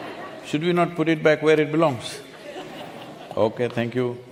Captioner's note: few laugh; few laugh